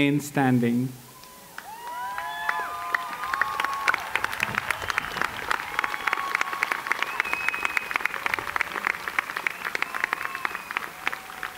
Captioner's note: applause